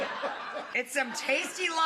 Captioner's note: crowd laughs